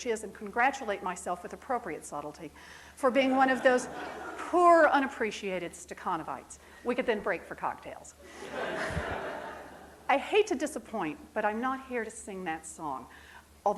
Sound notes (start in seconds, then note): 3.3 audience chuckles; 8.5 laughing